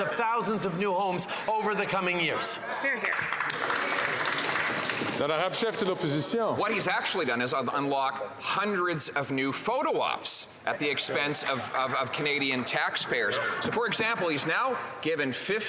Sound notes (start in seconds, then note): 6.1 some Applause